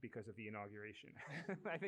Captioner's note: laughter